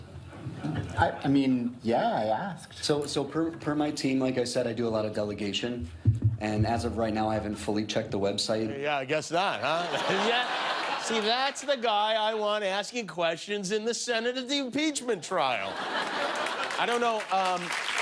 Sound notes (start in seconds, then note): 13.4 laughter